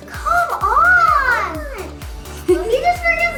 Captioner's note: excited Voice